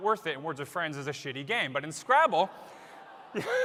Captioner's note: laughter